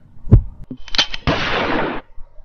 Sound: heartbeat; gunshot

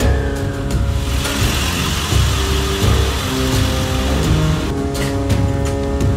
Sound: tense dramatic music; ambulance engine roaring

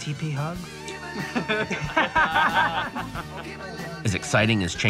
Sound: laughter

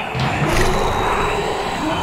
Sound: monstrous roar

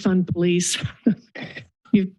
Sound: chuckles

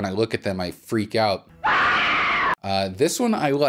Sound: loud scream

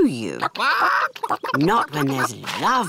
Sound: chickens chatter

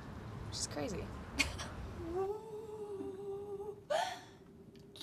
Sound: wailing; shushing

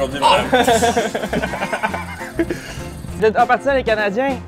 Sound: laughs

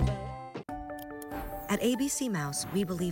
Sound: mouse clicks

